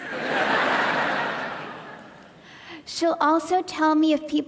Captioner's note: audience laughing